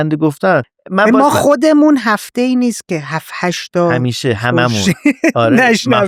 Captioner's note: laughs